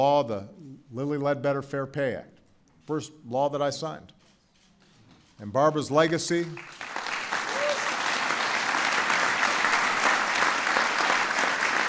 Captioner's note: applause